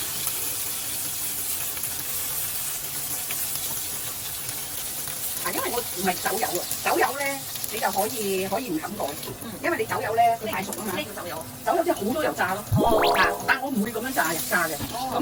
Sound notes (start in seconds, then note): 6.5 deep frying